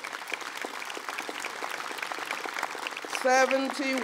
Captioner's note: applause